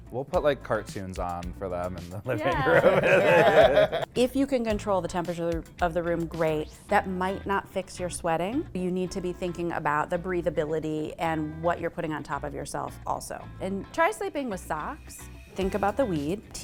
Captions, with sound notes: - We'll put like cartoons on for them in the living room. (chuckling) - If you can control the temperature of the room, great. That might not fix your sweating. You need to be thinking about the breathability and what you're putting on top of yourself also. And try sleeping with socks. Think about the weed.